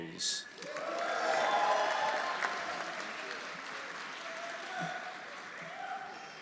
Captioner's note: audience applauding; audience cheering